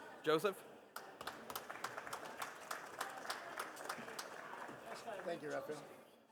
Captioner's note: participants applauding